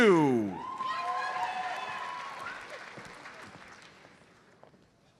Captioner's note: audience cheers and applauds